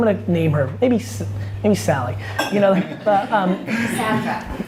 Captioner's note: laughs